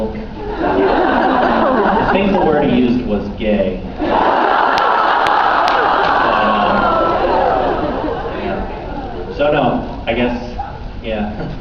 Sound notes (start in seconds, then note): 0.3 laughs; 4.0 laughs